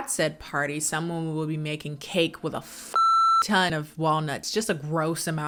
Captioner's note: beep